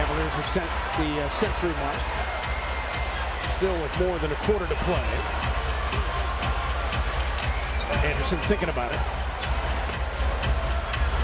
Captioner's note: loud crowd noise